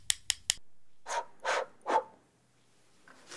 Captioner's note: he blows